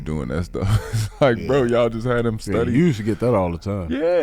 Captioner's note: laughs